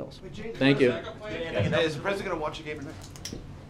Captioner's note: laughter